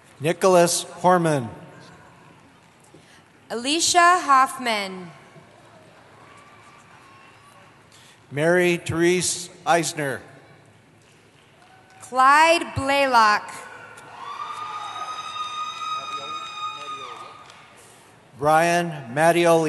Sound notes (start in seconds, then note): 13.6 cheering